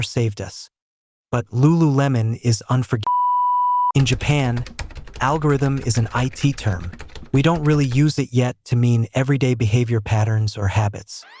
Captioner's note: beep